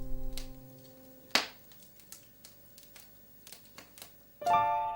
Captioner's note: fire crackles; gentle piano music